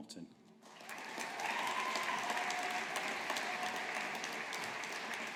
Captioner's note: audience applauding